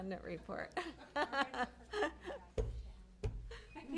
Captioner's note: laughter